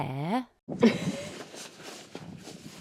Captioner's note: awkward laugh